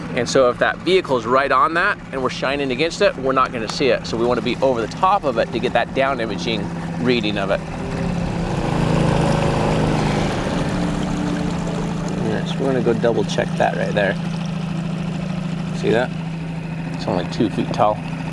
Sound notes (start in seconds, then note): 7.6 suspenseful music continues; 7.8 trolling motor purring